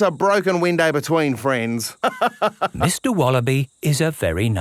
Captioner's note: laughs